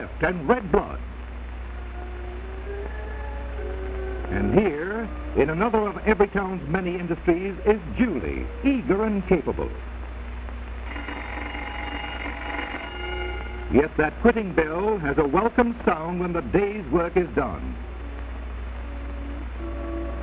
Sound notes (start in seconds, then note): 10.8 bell rings